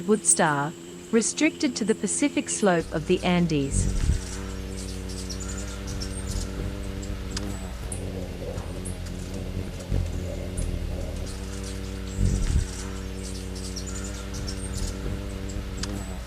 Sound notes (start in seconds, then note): 3.6 bird's wing flapping; 3.6 birds chirping and singing; 13.3 bird's wing flapping; 13.3 birds chirping